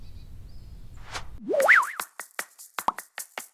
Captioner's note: whistling; upbeat music